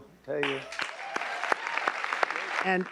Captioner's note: all applauding